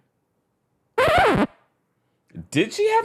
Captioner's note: record scratches